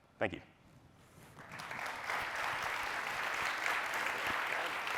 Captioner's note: applause